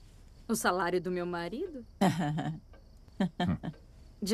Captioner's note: laughs